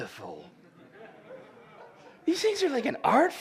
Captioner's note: laughter